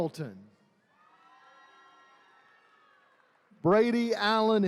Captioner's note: attendees cheering